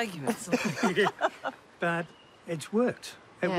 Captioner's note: laughs